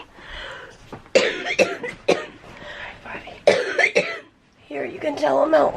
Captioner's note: coughing